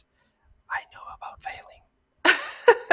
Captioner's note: whispering; laughs